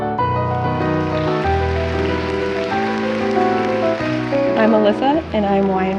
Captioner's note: audience applauds